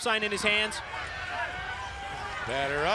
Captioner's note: crowd chatter